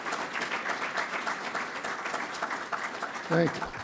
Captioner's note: applause